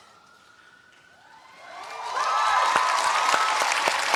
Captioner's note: cheering